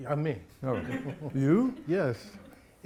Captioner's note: audience giggles